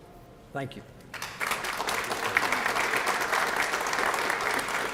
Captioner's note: applause